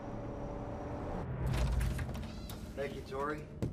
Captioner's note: door opening